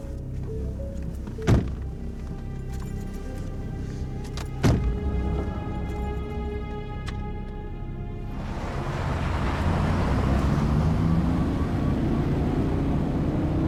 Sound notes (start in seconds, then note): 2.0 doors thumping; 4.8 suspenseful music continues; 4.8 vehicle droning